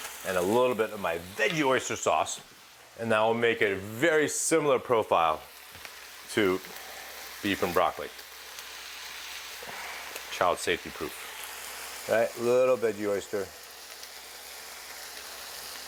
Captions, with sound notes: and a little bit of my veggie oyster sauce. And that will make a very similar profile to beef and broccoli. (exhales) Child safety proof. All right, a little veggie oyster.